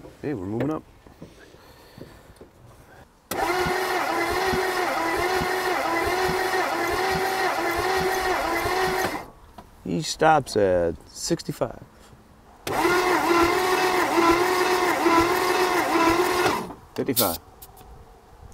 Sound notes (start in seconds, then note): 4.1 vehicle engine humming; 9.1 vehicle engine stops; 12.7 vehicle engine humming